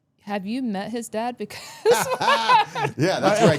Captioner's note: all laughing